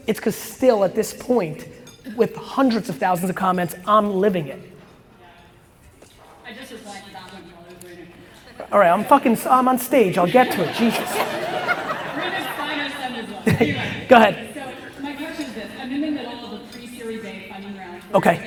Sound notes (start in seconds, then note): 11.6 audience laughs